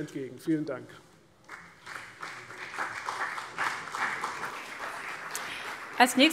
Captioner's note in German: Beifall CDU und BÜNDNIS 90/DIE GRÜNEN